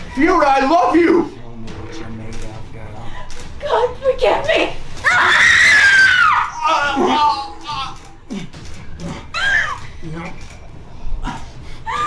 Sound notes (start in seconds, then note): 5.0 screaming